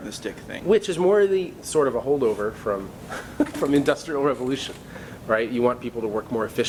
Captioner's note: laughs